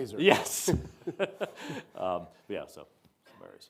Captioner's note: Azar chuckling